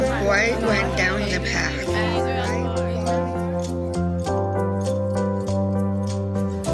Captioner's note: echoing voices